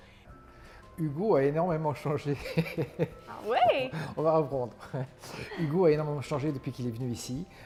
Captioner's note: chuckles